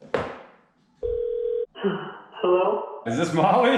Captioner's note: phone ringing